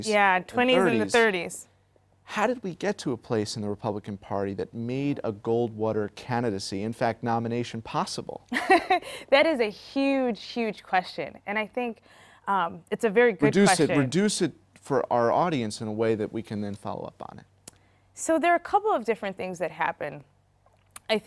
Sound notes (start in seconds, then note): 8.5 laughter